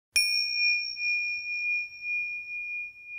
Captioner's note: bell chimes